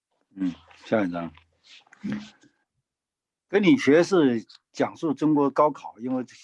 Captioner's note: speaking in foreign language